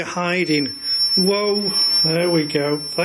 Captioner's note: machine beeping